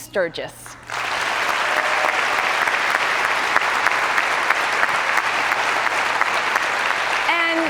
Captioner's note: cheers and applause